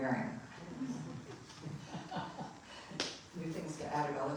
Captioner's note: audience laughing